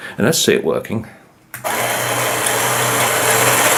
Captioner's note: motor and gear noise